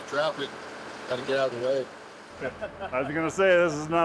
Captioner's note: miner laughs